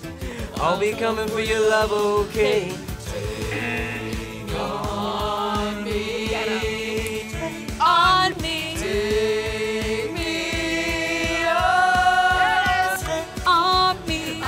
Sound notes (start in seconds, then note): 3.5 buzzer